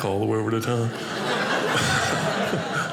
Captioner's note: audience laughing